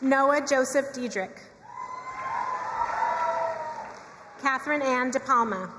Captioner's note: crowd cheering and applauding